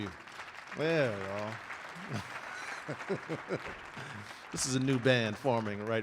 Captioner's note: audience applauding